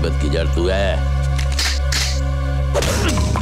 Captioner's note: Empty gun clicks